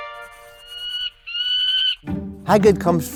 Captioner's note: bird crows